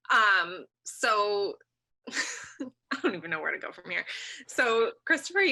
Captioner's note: chuckles